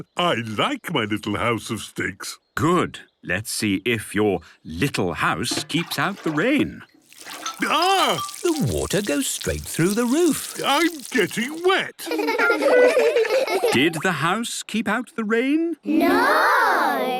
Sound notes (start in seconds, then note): 11.9 laughter